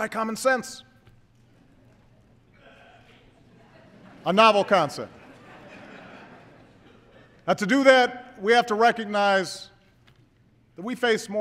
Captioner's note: laughter